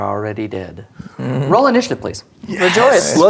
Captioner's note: chuckling